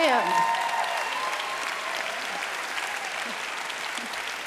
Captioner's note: applause